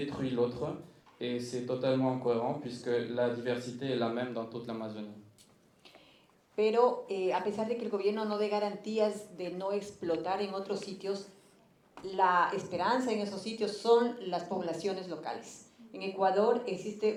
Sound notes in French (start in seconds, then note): 6.4 Espagnol